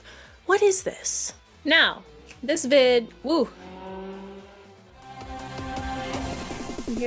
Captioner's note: loud car speeding in the background